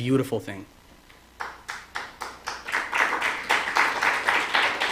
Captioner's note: applause